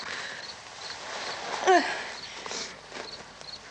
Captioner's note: barbra groans